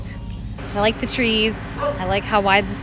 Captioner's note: dog barking